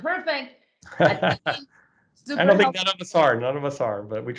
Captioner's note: chuckles